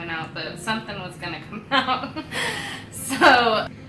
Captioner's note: laughs